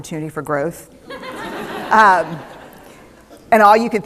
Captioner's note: laughter